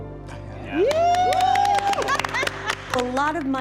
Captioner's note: all cheering and laughing